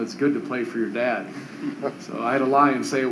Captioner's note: laughter